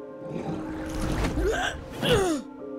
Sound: grunting

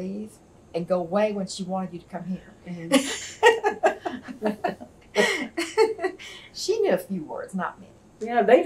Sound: laughs

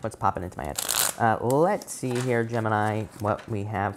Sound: cards shuffle

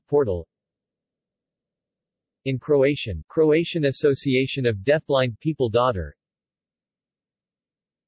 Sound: in Croatian

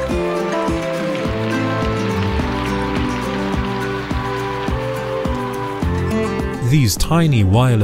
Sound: applause

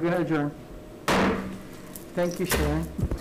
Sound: gavel bangs

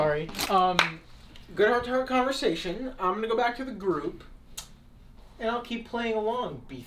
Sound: clicks tongue

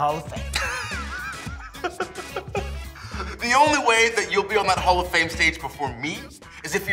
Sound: laugh

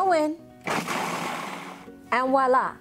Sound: grinding Sound

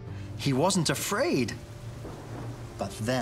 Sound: thunder crashing

